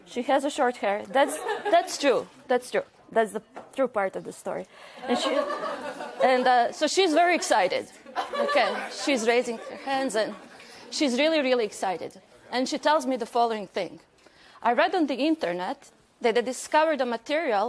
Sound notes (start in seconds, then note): 5.0 laughter